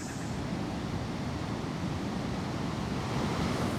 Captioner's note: ocean sounds